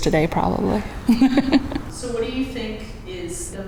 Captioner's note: laughs